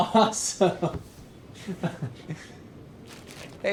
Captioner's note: chuckles